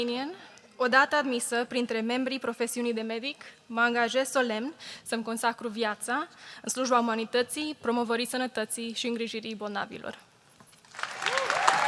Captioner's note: speaking romanian; applause